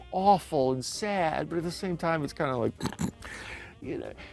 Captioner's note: snickering